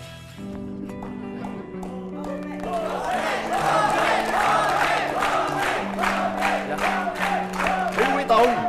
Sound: the audience cheering

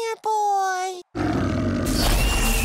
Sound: growling

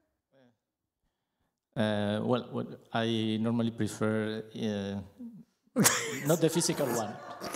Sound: laughs

